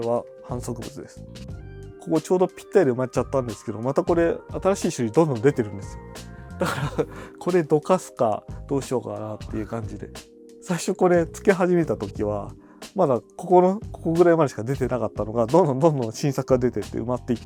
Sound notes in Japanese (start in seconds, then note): 6.6 笑い